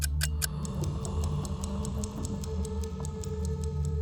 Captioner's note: otherworldly moans